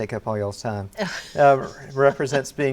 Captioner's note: laughs